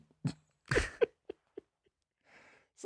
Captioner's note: laughing